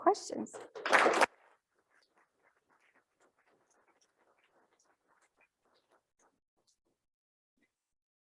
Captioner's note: applause